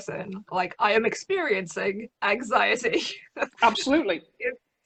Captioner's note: laughs